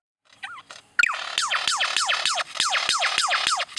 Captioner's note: bird chirping